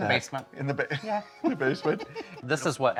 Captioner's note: laughs